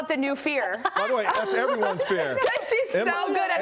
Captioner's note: laughter